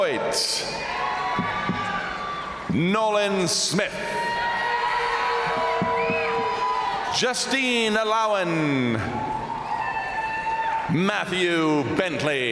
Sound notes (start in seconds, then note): 0.1 crowd cheering; 0.8 crowd applauding; 4.0 crowd cheering; 4.3 crowd applauding; 9.0 crowd cheering